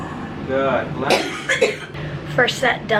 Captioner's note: coughing